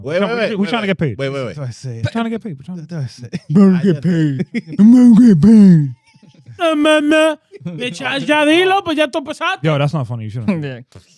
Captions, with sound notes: Wait, wait, wait. We're trying to get paid. Wait, wait, wait. We're trying to get paid. We're trying to do it. (Speaking In Foreign Language) Yo, that's not funny. You shouldn't.